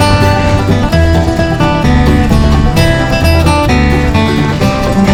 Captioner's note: tires running along the dirt